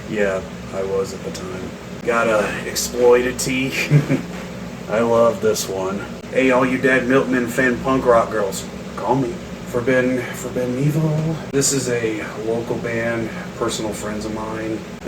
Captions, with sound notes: Yeah, I was at the time. Got an Exploited tee, (chuckles at the sexual imagery) I love this one. Hey all you Dead Milkmen fan punk rock girls, call me. Forbidden - "Forbidden Evil". This is a local band, personal friends of mine.